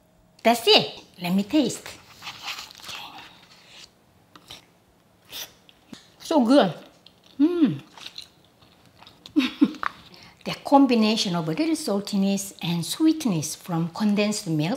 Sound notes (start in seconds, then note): 9.3 laughs